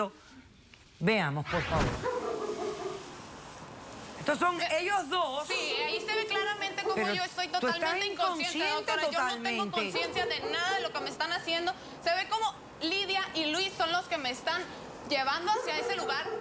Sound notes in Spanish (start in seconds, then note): 1.8 ladridos